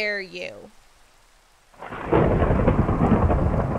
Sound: thunder

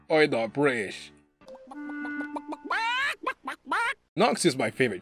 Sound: mocking chicken noises

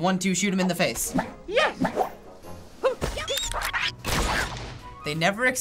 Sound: gun fires

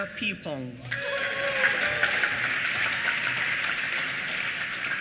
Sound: applause

